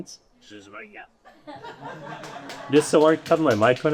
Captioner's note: audience laughing